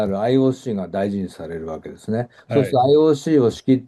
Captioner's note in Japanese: 咳払い